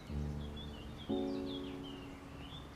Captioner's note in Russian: щебет